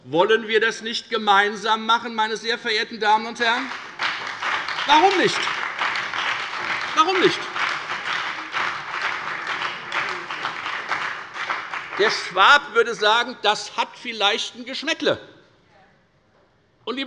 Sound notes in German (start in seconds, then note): 3.2 Beifall bei der FDP, der SPD und der LINKEN